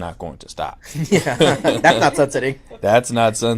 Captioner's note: laughter